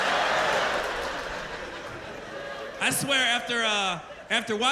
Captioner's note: laughter